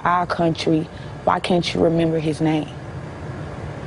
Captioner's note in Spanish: habla en ingés